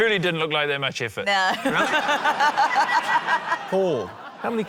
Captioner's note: laughter